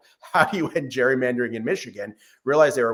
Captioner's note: laughs